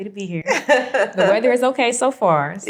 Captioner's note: laughs